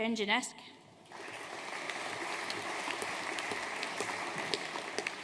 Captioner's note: audience applauding